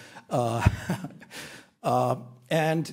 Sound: chuckles lightly

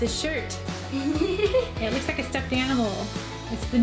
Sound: giggling

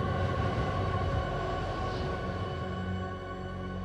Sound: wind gusting

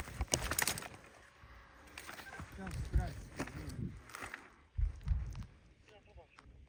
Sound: silent buzzing of a copter

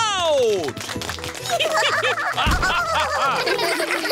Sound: applause; all giggling

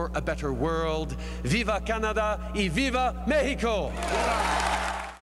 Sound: applause

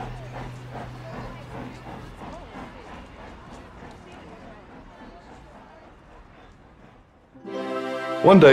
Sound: train chugging

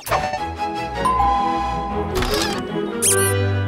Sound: bell rings

